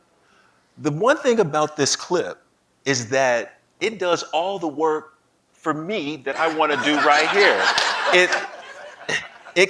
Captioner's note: laughing